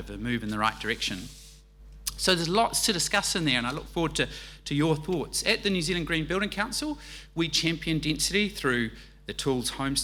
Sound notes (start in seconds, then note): none